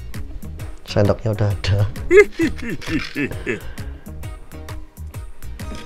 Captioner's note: chuckles